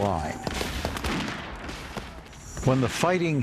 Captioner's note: guns firing